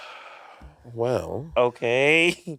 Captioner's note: Monét sighing